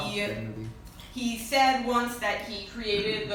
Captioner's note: laughs